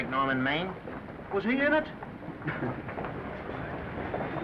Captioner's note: chuckles